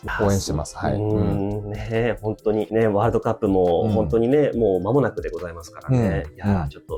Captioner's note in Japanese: 咳払い